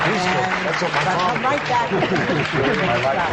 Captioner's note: applause